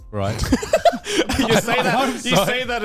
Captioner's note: laughs